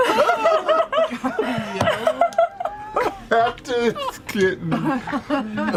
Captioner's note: laughter